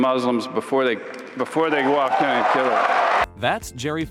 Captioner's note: applauding